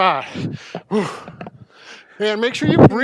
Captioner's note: breathes heavily